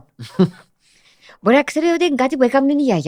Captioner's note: he laughs